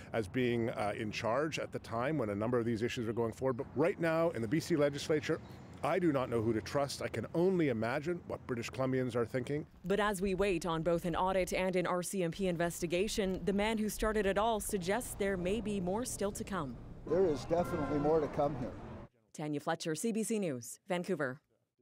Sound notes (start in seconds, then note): none